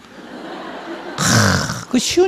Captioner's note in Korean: 청중 웃음